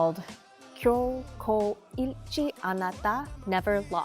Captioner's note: speaking Korean